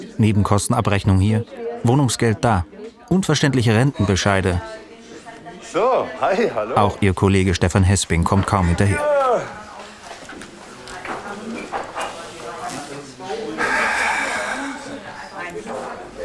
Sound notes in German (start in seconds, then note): 10.7 Stimmengewirr; 13.6 seufzt